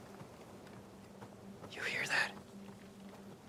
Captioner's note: whispers